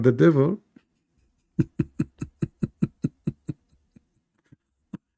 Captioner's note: Ketawa